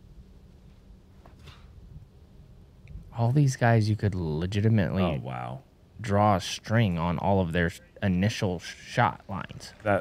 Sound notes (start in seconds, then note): none